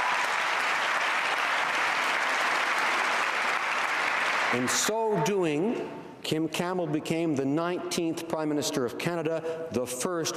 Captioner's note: cheering and Applause